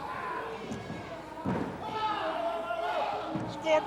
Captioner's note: crowd cheering